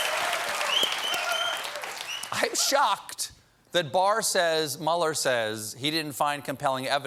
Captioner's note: cheers and applause